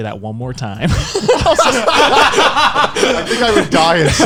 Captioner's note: laughing